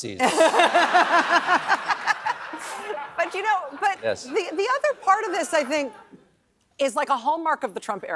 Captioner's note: laughs